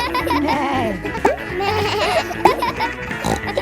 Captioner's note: neighs; bleats